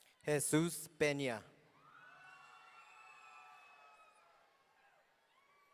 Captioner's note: audience cheering